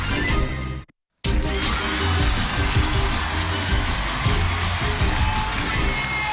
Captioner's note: cheers and applause